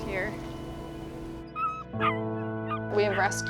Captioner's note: barking